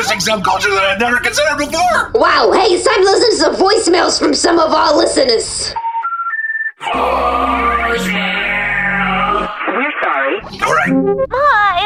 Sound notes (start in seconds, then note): 8.7 dial up sounds; 11.2 voicemail plays